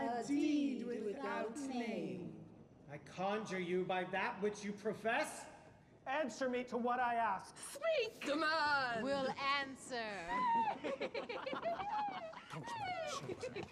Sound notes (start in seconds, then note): 10.2 giggling